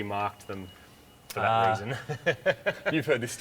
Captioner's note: chuckles